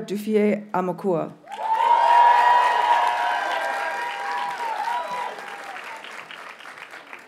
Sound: audience cheers and applauds

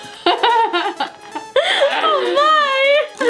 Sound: laughter

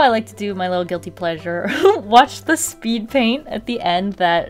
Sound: giggles

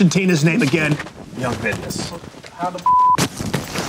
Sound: beep

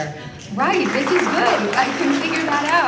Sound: applause and finger snapping

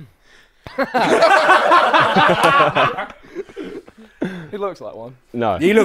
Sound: people laughing

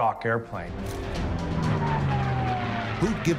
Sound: plane engine roars

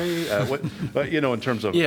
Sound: laughter

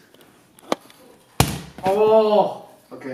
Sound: thump

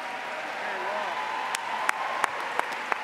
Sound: applause

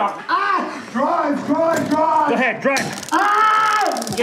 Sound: yelling; screaming

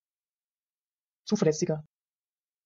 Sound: fast Pronunciation

